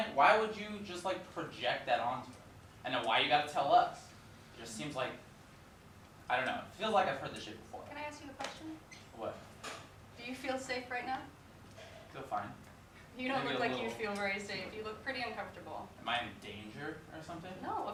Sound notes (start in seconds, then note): none